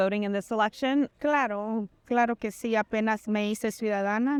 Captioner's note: in Spanish